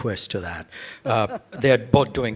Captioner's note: laughs